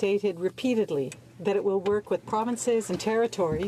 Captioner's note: speaking french